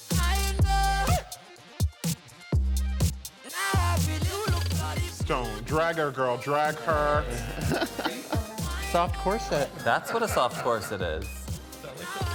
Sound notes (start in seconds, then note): 6.8 person chuckling